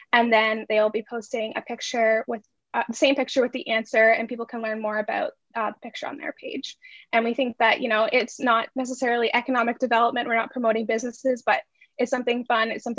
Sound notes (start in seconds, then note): none